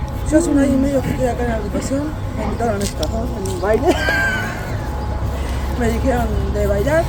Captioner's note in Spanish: risas